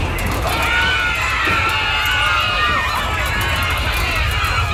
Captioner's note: crowd screams